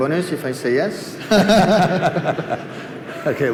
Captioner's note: laughter